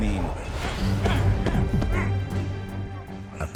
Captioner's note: grunting